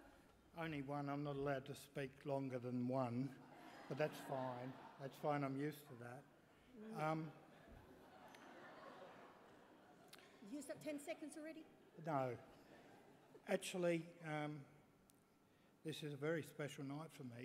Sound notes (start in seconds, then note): 3.4 laughter; 7.4 laughter